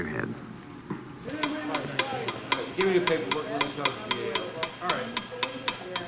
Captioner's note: indistinct chatter; tapping